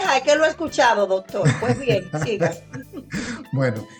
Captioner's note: laughs